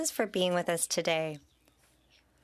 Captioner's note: speaking French